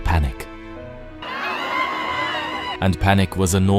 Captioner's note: screaming